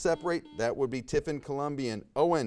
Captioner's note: buzzer buzzes